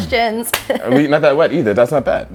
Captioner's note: laughs